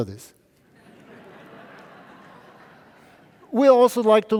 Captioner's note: audience laughing